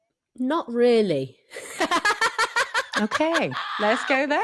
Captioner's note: laughs